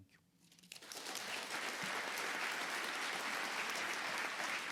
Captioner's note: audience applauding